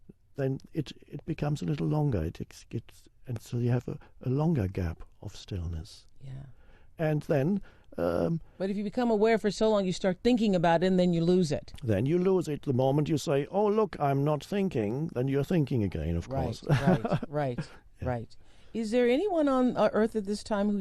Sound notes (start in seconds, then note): 16.5 chuckles